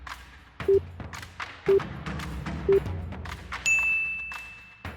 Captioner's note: upbeat music; countdown tones; bell chimes